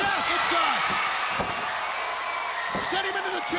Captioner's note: crowd cheering